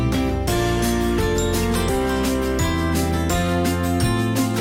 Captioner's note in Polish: dzwonek